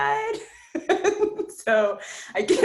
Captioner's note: laughs